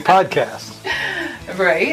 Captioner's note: laughing